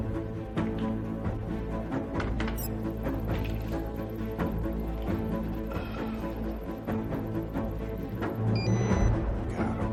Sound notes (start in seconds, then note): 1.5 beeeeping; 8.5 beeping